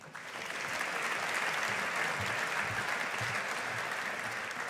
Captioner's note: audience applauding